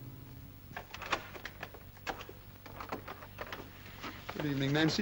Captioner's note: door handle rattles & opens